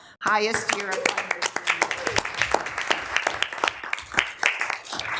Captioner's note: people clapping